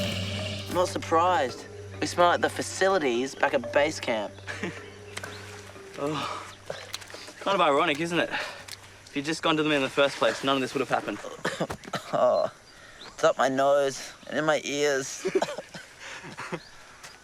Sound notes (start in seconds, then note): 0.0 hisses; 7.0 Rikki groans; 15.2 laughs